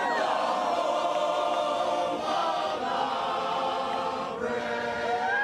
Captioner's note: cheering